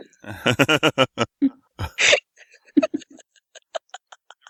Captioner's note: laughter